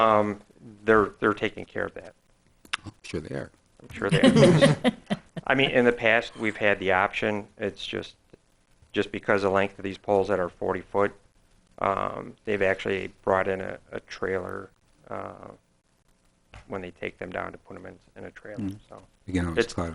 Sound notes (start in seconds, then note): 3.9 laughing